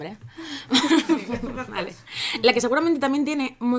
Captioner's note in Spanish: risas